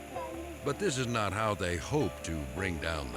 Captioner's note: people speaking in a foreign language